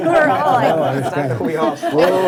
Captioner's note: board members laugh